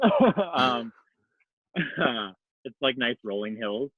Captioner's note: laughs